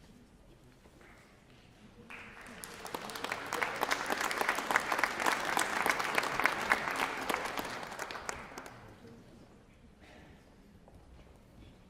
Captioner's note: applause